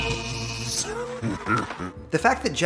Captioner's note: crowd claps